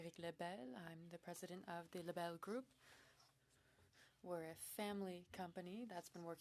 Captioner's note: speaking French